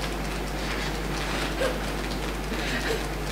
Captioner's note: laughs